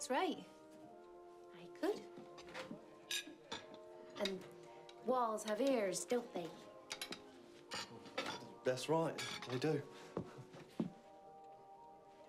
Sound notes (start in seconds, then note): 9.1 silverware clatters